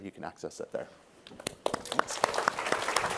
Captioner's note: applause